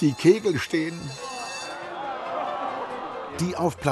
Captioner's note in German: Enttäuschtes Raunen der Menge